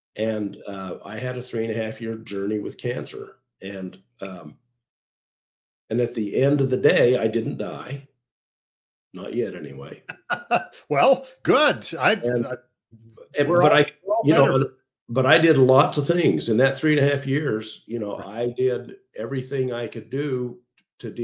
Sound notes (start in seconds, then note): 9.9 laughs